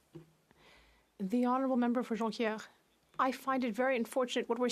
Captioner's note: speaking French